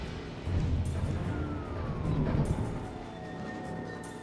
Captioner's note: siren